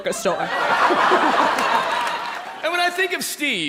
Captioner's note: people laughing